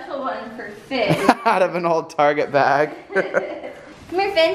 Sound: laughter

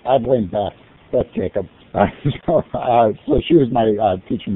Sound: laughs

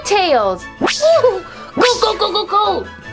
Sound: synth whooshes; giggles

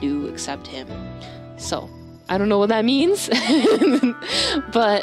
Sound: nervous laugh

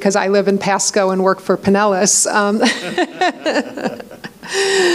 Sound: laughs

